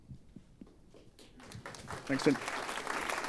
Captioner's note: applause